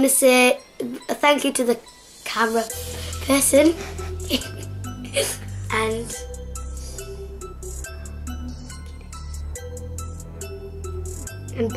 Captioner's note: laughs